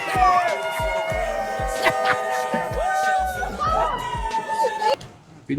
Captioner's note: people exclaiming, yelling